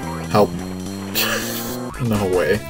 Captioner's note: laughs